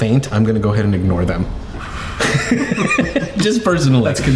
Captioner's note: laughing